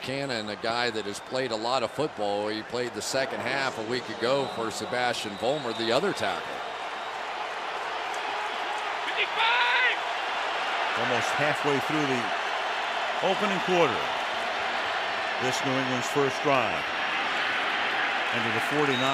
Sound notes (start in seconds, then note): 7.1 cheering